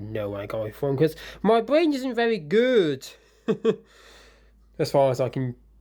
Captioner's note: chuckles